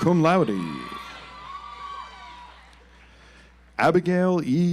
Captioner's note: audience applauds